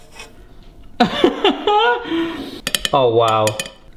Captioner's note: laughs